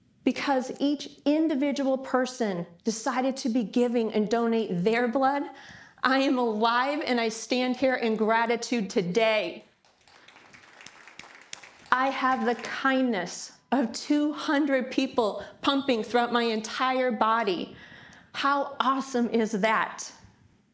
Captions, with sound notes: Because each individual person decided to be giving and donate their blood, I am alive and I stand here in gratitude today. (audience applauds) I have the kindness of 200 people pumping throughout my entire body. How awesome is that?